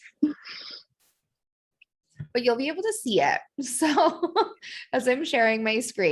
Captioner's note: laughter